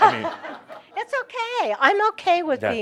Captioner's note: laughter